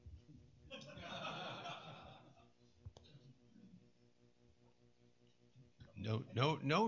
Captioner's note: laughter